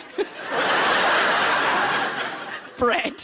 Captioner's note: everyone laughs; chuckling